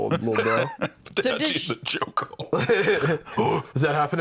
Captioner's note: laughing